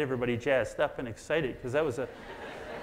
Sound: audience laughs

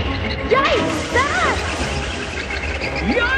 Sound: tootle

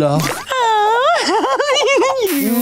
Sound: swooning

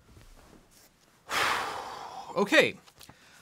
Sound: gustily exhaling

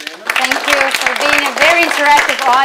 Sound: students loudly clapping

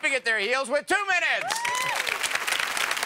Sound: audience applauds

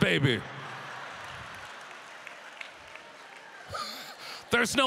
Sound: audience laughter

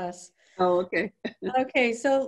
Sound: chuckling

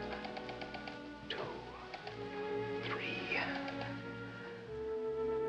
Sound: whispers

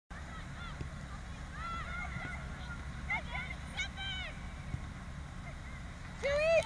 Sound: players communicating

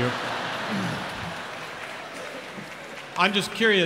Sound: audience laughs

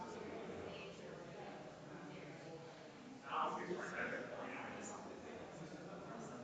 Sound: people chattering distantly continues

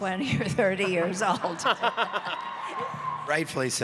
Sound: laughing

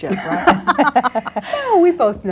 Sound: group laughs

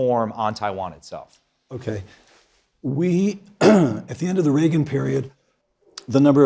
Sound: cough

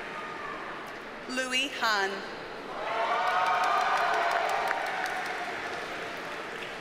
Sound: audience cheers and applauds

